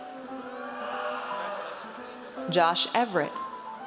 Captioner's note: audience cheers